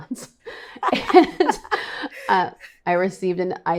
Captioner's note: laughing